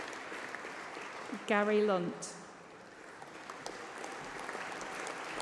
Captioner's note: applause